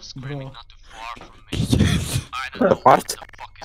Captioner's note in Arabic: يضحك